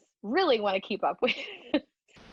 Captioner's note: laughter